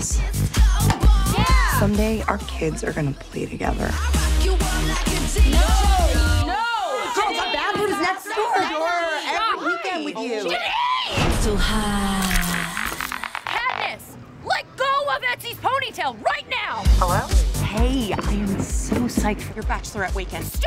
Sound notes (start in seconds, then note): 10.4 screaming